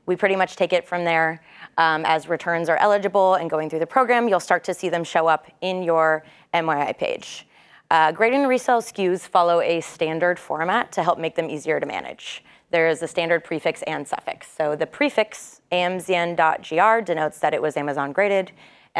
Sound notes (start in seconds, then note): none